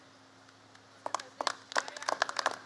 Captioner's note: applause